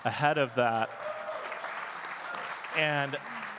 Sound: audience cheering and clapping

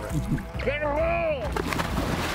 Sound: laughs; man shouting; water splashing

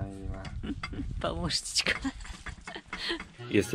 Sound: laughs

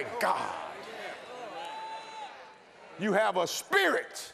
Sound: congregation praising

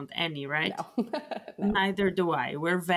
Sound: laughs

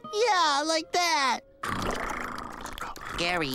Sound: purring

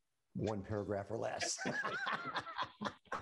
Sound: laughing

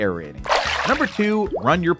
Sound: water splashes

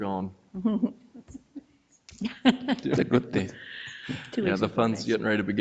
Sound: people chuckle

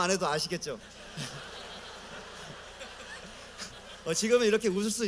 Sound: laughter

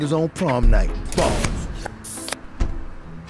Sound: steel bangs; card zips

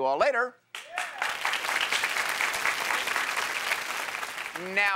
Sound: cheers and applause

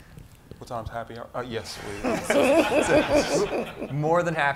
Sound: audience laughing

